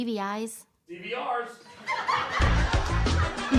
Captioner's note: audience laughs; upbeat bass guitar